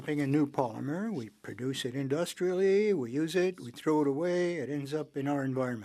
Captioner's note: speaking French